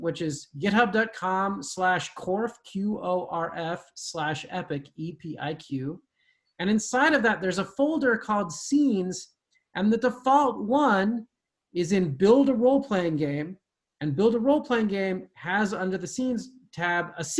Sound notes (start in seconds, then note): none